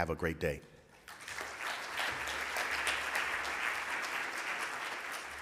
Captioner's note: audience applauds